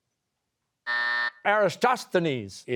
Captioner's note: buzzer